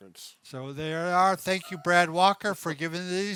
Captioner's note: chuckles